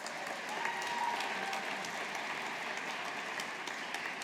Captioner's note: audience applauding